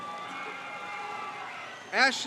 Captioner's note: crowd cheers